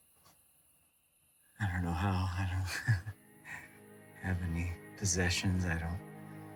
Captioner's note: laughs